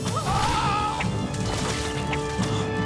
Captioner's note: mac yelps